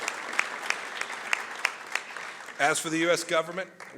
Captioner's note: applause